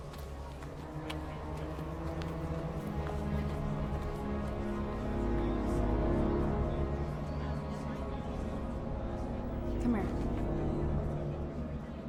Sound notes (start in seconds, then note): 0.1 dramatic music; 3.5 people chattering